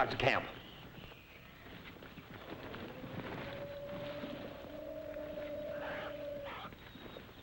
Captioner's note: birds chirping; animals calling